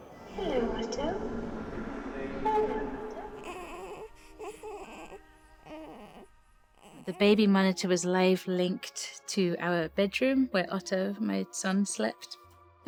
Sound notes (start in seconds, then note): 2.1 baby grumbling